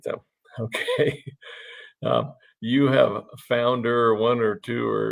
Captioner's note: chuckles lightly